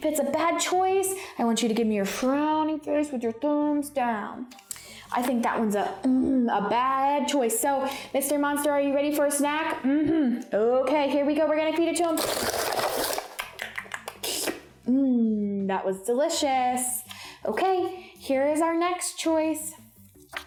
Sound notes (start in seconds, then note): 12.1 paper crunching; 13.4 smacking